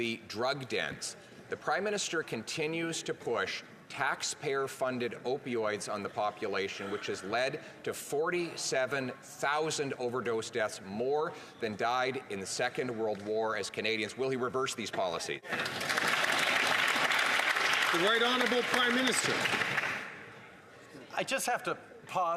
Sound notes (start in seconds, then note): 19.3 some Applause